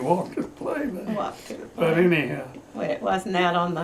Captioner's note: laughs